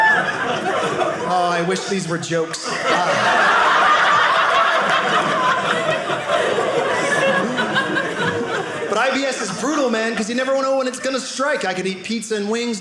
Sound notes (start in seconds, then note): 2.7 audience laughing